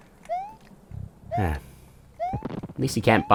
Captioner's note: sigh